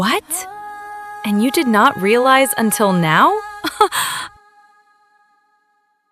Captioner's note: haha